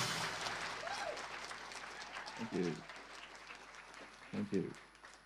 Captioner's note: audience applause